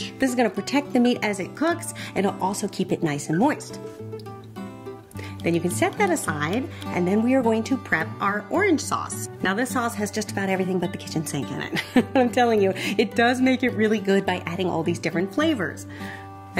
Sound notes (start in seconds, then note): 3.8 gentle music; 11.7 laughs